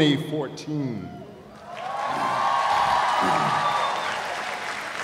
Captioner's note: cheers and applause